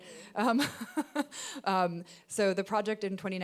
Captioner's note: laughing